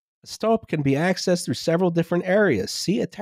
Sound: none

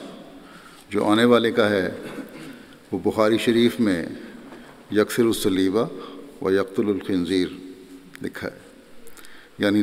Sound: Arabic

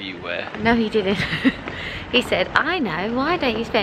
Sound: laughs

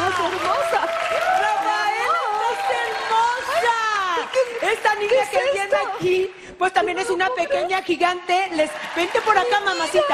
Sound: applause

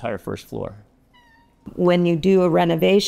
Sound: cat meowing

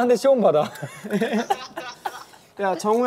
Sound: haha

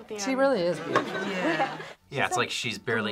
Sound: laughs

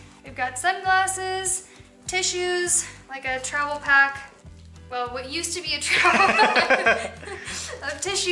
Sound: laughter

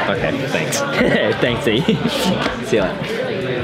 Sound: laughs

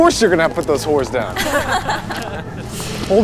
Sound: all laugh

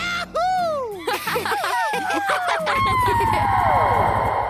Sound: laughing and howling

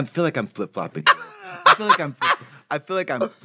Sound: Trixie cackles

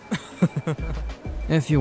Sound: giggles

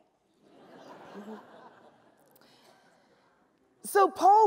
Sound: laughs

